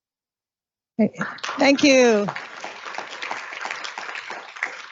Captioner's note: applause